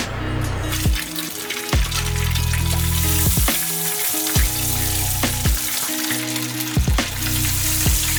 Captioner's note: sizzling